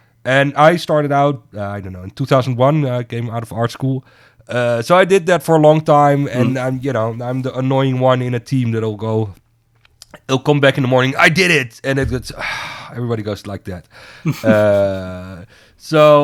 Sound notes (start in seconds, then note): 12.6 sighs; 14.2 laughs